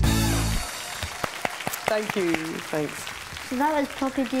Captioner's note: audience applause